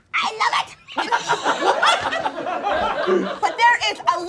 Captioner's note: all laughing